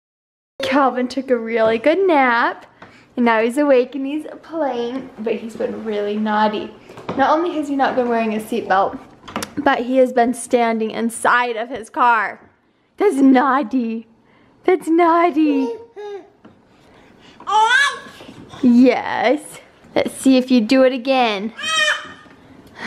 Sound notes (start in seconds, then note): 0.0 voiceover; 15.5 baby babbles; 21.5 baby screams